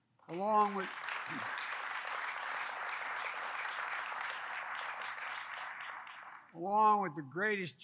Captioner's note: applause